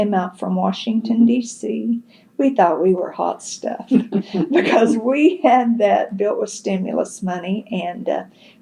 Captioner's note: laughter